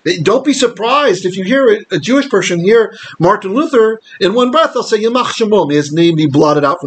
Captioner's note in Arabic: بالعبرية